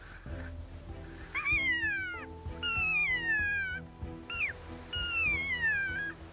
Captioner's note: high-pitched bugling elk call